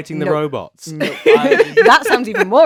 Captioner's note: laughs